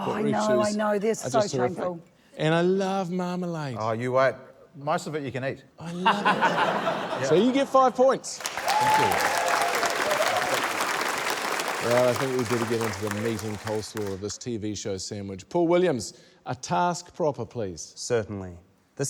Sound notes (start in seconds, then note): 5.8 laughter; 8.4 cheering, applause